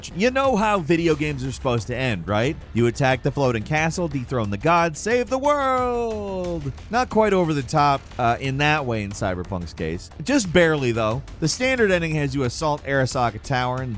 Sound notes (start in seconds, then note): none